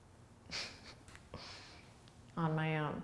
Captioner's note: laughing